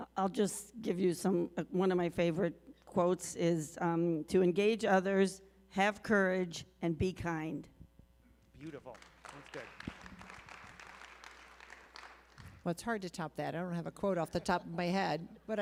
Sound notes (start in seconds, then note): 8.6 applause